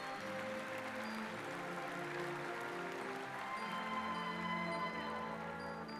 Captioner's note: applause